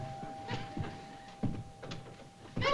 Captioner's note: doorbell chimes; thud; yelling